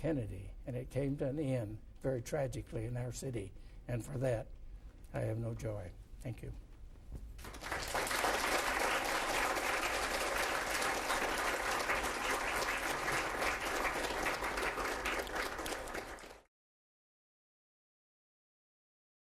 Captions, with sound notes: Kennedy. And it came to an end very tragically in our city. And for that I have no joy. Thank you. (Applause)